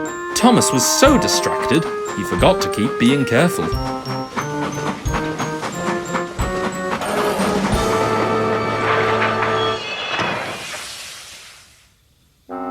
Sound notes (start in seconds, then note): 7.4 THOMAS biffs into van, loud crash follows